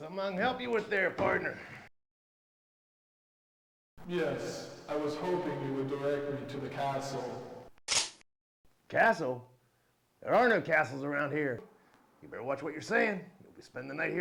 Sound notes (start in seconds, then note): 7.9 gun clicks